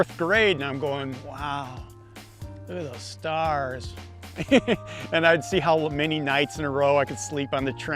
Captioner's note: laughs